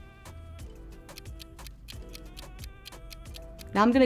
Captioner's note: timer ticking